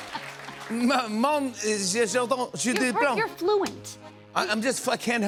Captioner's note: speaking fake French; normal voice